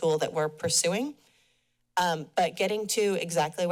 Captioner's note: pause